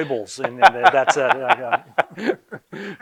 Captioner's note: laughing